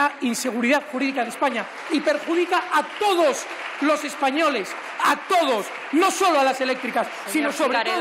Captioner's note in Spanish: aplausos